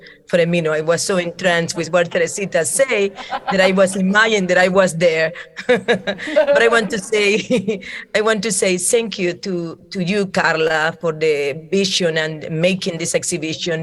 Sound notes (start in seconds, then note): 5.1 laughing